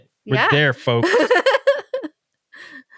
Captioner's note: laughing